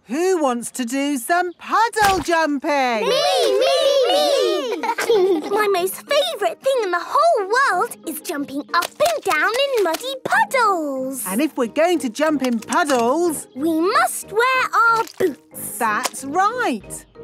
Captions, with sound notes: Who wants to do some puddle jumping?! - Me, me, me! (laughing) - My most favourite thing in the whole world is jumping up and down in muddy puddles! - And if we're going to jump in puddles... - We must wear our boots! - That's right!